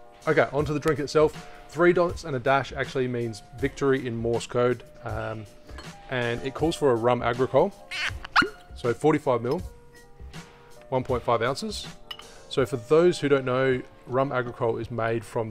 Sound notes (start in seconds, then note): 7.8 bottle squeaks